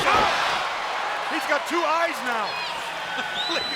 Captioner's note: applause